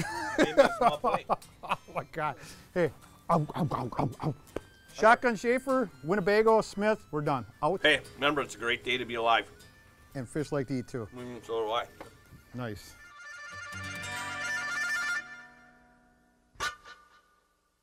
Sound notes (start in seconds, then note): 0.0 laughs; 3.3 makes gobbling noises